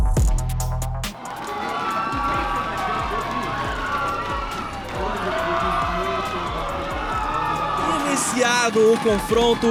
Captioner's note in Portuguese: aplausos da torcida